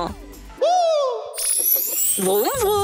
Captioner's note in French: bruit de baguette magique